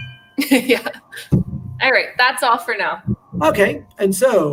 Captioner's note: laughter